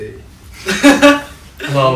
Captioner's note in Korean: 웃음